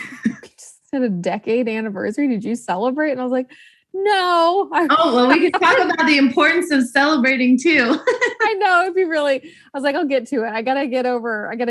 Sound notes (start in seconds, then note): 7.9 laughs